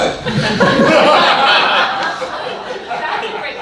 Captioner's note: audience laughing